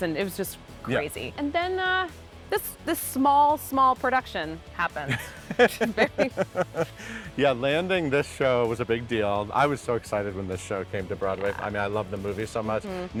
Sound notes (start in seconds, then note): 5.0 laughing